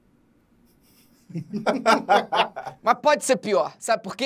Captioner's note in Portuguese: risadas